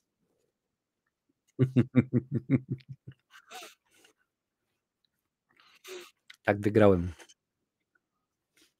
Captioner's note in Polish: śmiech